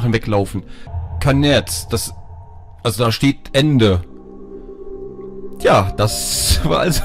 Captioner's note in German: spricht Russisch